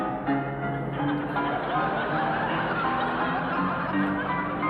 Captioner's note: audience laughing